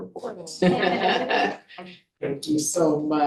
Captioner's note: board members laughing